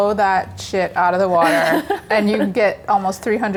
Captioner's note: laugh